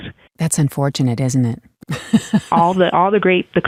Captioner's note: laughs